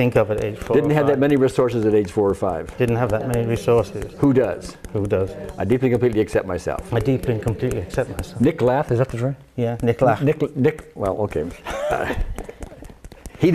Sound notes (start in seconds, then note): 8.5 speaks in foreign language; 11.6 laughs